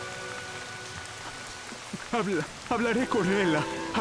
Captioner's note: voice breaking